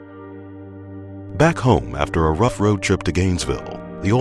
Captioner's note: voiceover